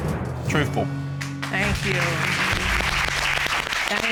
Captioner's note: applause